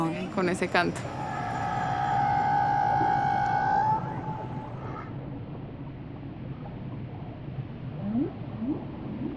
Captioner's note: whale singing